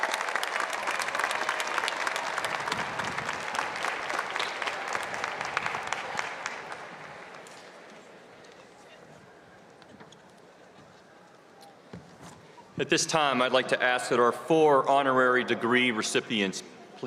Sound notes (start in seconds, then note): 4.8 applause